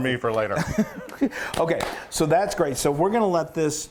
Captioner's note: laugh